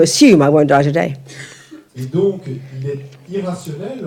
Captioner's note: French